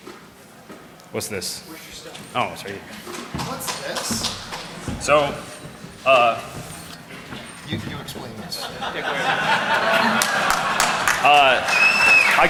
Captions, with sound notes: (Laughing) I help create the veil frame work. And there's a veil vodka we found. So that's my shot. >> No no keep talking. >> Okay. Keep talking. So the UNC location. You stand up and